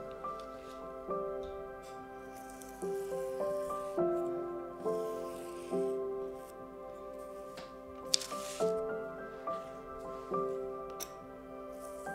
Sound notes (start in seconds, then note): 0.2 gentle music continues; 2.9 paper scratching; 8.0 paper rustling; 9.5 gentle music continues